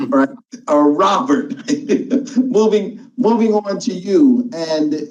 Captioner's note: chuckles